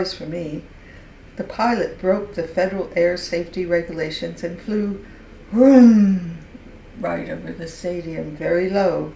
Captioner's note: plane sound